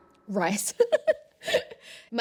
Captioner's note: laughs